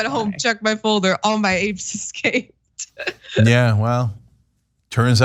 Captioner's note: laugh; laugh